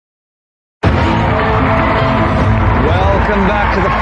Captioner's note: dramatic music; cheering and applause